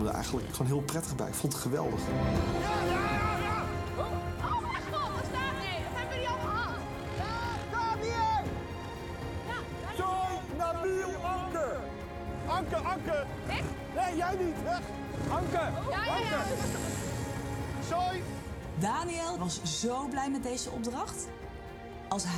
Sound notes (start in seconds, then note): 3.0 shouting